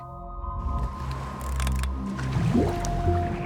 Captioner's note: divers splashing